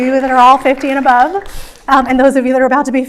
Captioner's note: audience clapping